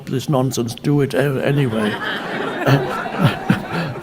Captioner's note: audience laughing; Eckhart laughing